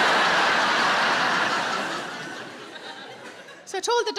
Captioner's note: audience laughs